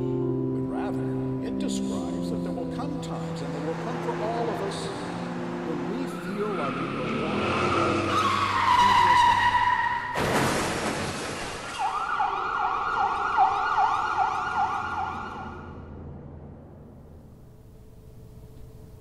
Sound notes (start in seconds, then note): 5.6 pastor continues, muffled; 7.5 brakes squealing; 8.3 engine revving; 8.9 car screeching out of control; 10.0 crashing sound; 11.6 sirens wailing